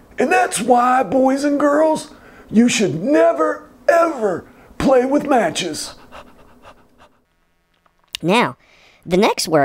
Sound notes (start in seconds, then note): 5.8 dog panting